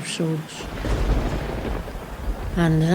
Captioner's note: thunder claps